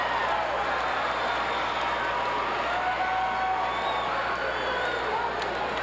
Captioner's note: audience cheering and clapping